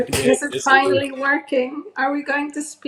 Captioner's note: in English